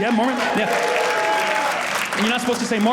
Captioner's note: audience clapping